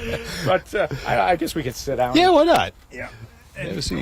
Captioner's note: laughter